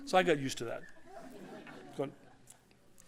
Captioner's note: laughter